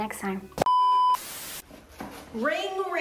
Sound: beep

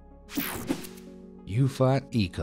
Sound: graphic whooshing

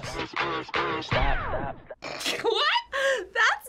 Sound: snorts

